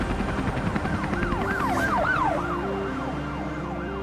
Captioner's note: sirens blaring